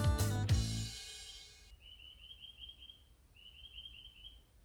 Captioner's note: birdsong